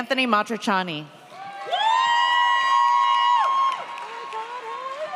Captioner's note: audience cheers